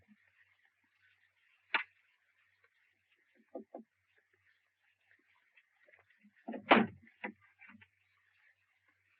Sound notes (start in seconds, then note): 3.7 Sherlock tapping